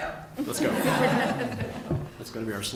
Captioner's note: laughing